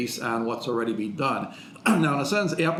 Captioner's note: clears throat